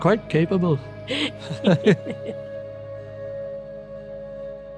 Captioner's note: both laughing